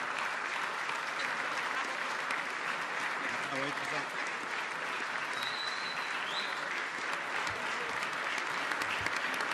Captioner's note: applause